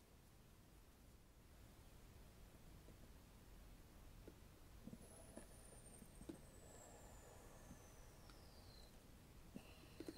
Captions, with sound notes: oh hey I'm back *alien type noises*